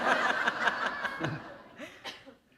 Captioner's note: laughter